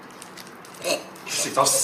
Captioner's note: MONK choking